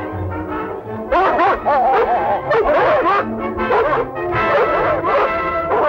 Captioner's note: barking